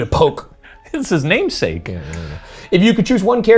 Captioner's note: laughs